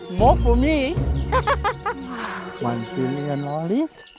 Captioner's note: laughs; sighs